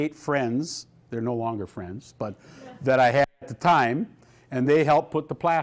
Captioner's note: laughter